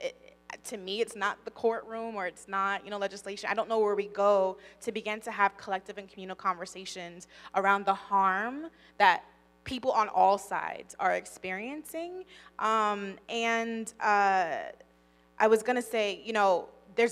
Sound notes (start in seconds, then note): none